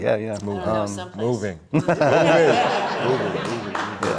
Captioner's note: all laughing